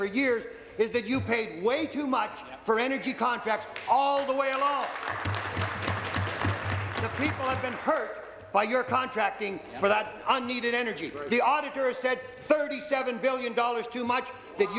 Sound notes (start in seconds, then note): 8.5 applause